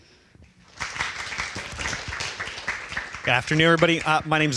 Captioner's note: applause